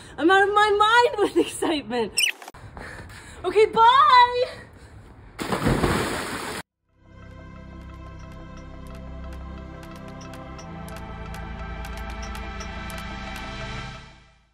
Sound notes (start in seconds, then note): 2.2 tape fast forwarding; 5.4 water splashing; 6.8 peaceful music